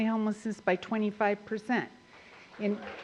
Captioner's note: applause